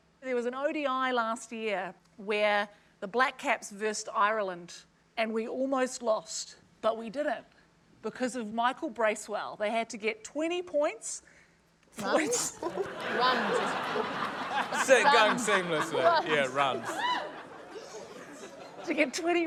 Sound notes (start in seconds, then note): 15.7 laughter